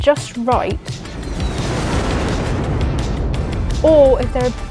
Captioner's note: aeroplane taking off